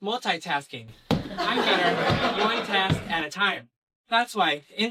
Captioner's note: laughing